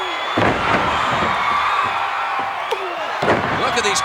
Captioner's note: audience cheering